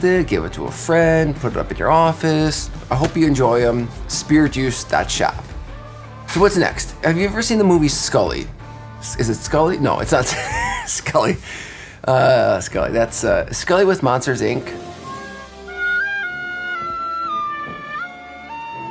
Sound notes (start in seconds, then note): 10.2 laughing; 16.0 dissonant music